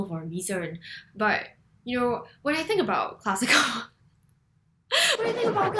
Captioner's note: laughs